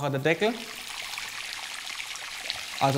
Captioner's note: splashing